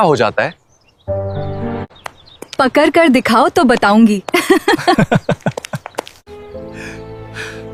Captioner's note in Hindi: हंसी